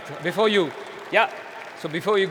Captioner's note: applause